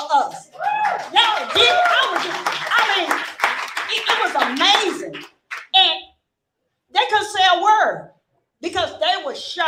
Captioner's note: applause